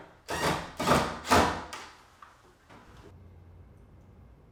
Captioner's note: screwdriver driving